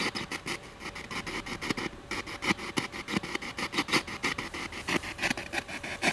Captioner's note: radio noise from the spirit box